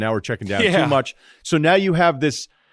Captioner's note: laughs